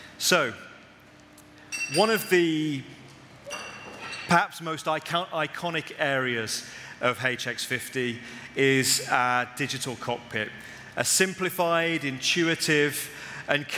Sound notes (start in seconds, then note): none